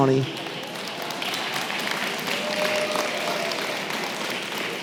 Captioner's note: applause